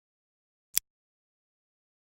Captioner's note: click